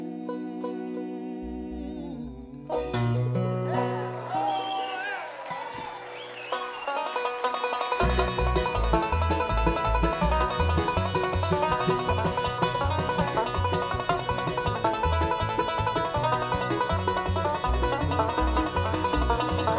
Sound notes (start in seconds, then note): 0.5 light strumming; 3.6 audience cheers; 7.1 fast strumming